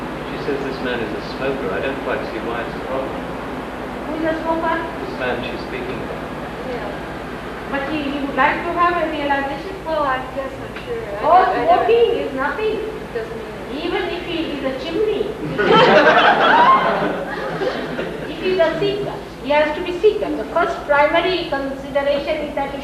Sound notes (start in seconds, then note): 15.4 laughter